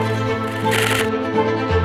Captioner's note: shutter noises